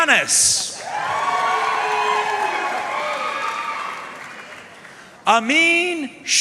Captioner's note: audience cheering and applauding